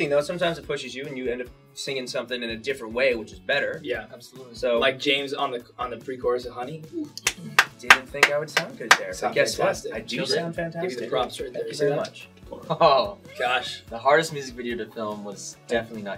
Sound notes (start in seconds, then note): 7.2 claps; 12.6 laughs